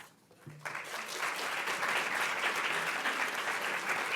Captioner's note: audience clapping